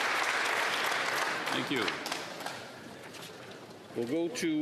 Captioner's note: applause